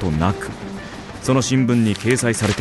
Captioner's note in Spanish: sonidos de imprenta